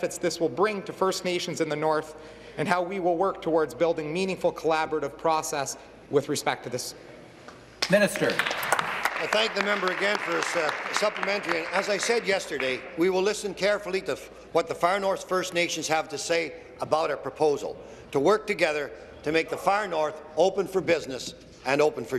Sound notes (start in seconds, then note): 13.3 applause